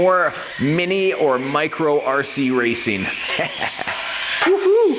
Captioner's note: laughing